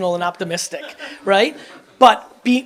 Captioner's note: audience laughs